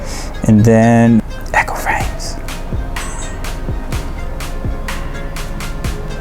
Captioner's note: whisper